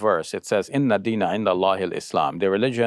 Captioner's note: speaking foreign language